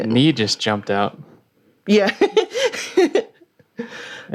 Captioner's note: laughing